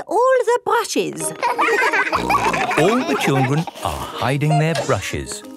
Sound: laughter; snorting

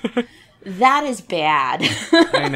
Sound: laughs

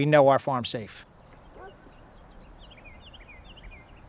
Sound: dog barks

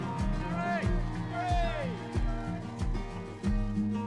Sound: crowd cheering

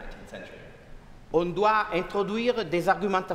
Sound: speaking french

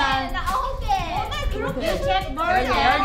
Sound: everyone speaking in Korean

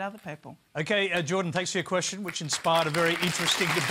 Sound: applause

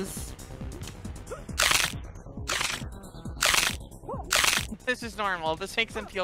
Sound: bones crunching

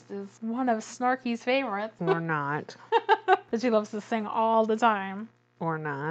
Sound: laughs

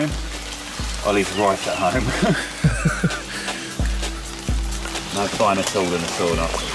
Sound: laughs

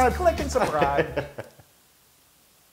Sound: laugh

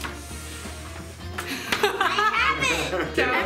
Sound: laughing

